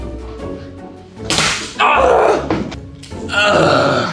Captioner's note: yelling